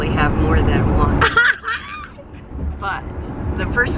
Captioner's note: laughter